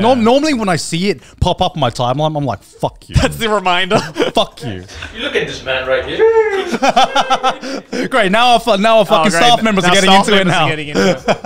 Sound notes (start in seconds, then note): 6.1 staff howling; 6.2 laughing